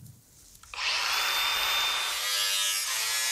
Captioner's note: machine roar, grinding